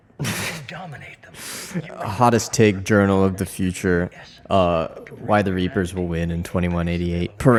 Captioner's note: laughs